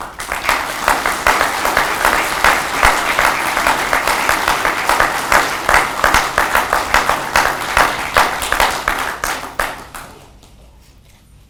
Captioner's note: audience clapping